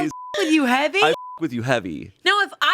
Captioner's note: beep